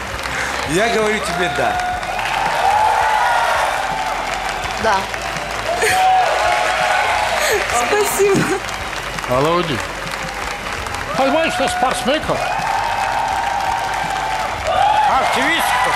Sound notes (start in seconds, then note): 2.3 applause; 5.7 applause; 13.3 cheering